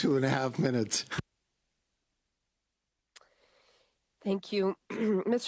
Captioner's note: laughter